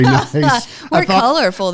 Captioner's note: laughter